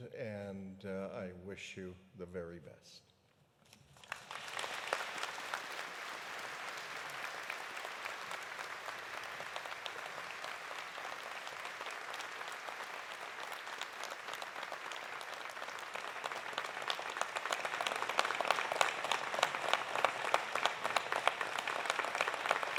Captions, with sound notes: And I wish you the very best. (audience applauding) (applause continues) (applause continues)